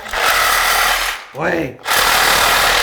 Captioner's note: drill whirring